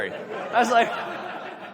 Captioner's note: audience laughs